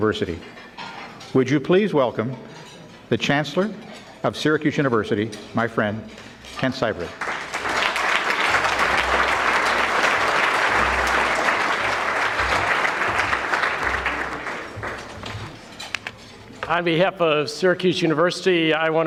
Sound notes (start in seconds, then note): 7.0 audience clapping